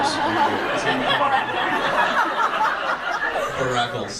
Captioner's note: audience laughs